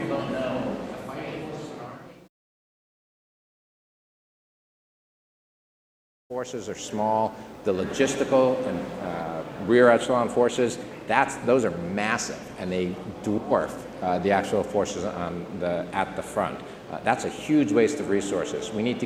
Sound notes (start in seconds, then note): 3.7 audio drops out